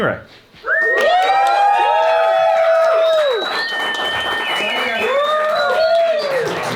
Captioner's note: everyone cheering and applauding